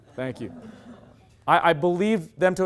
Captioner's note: loud laughter